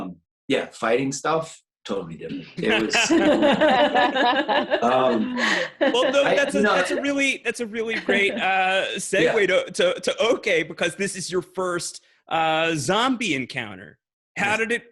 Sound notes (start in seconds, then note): 2.5 people laughing